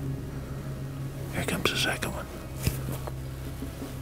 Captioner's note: whispering